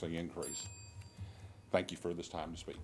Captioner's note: bell dings